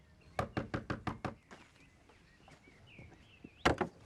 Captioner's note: Rob knocking